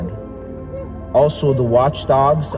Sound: dogs barking

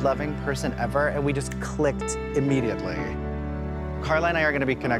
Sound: snapping

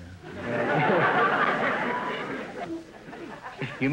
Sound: audience laughter

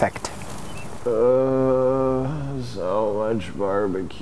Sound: groans

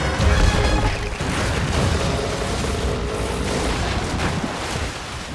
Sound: crash and water splashing

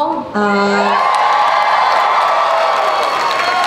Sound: crowd cheers

